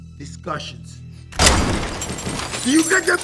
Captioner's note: gun fires